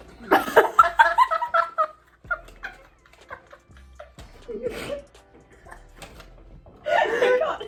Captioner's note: both laugh